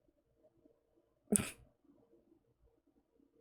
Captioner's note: laughs